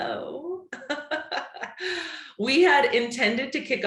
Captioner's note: chuckles